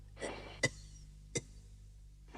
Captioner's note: coughs weakly